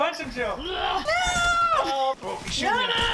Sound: screams

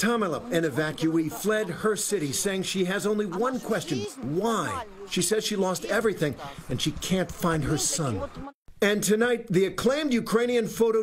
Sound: speaking foreign language

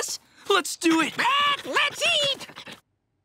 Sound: squawking

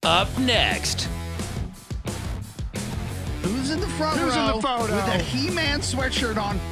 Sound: laughter

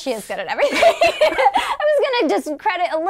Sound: laughing

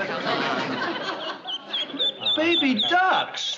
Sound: duckling chirps

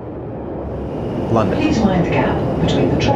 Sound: sound of train approaching

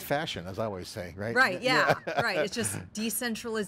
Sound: chuckles

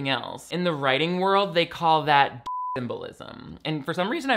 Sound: beep

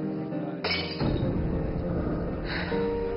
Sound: a glass breaks

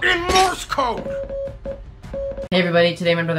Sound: in morse code

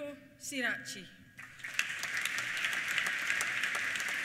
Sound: applause

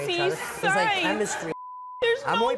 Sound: beep

